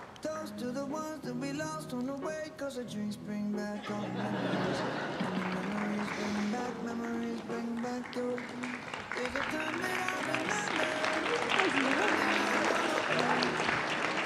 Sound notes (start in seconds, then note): 2.5 applause